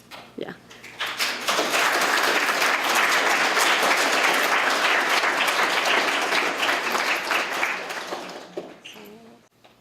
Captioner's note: applause